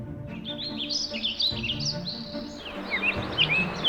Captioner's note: birds chirp